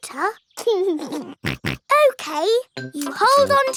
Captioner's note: laughs and snorts